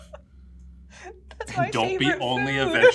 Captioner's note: laughs